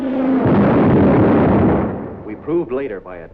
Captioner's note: explosion